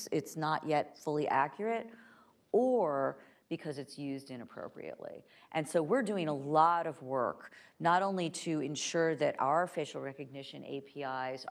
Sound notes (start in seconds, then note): none